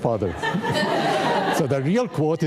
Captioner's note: audience laughing